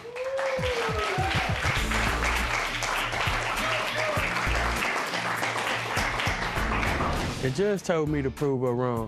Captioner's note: applause